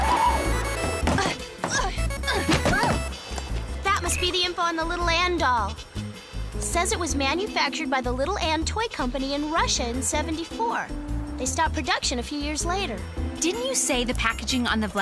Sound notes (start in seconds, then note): 0.0 jazzy spy music; 4.0 ringtone